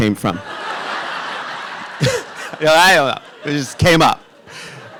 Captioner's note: audience laughing